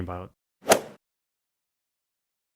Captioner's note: swoosh